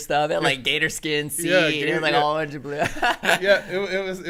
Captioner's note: laughing